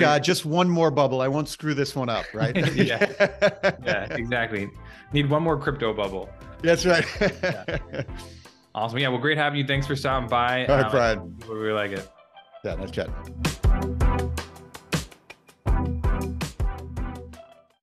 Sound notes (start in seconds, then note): 2.2 laughes; 6.9 laughes; 12.6 upbeat music playing